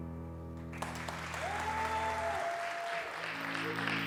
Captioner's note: audience applause